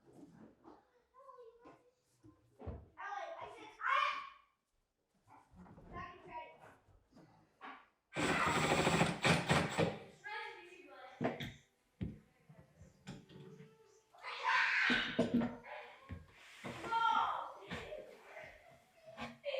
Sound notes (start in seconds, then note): 8.1 drill whirring